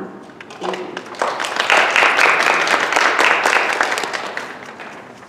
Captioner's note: applause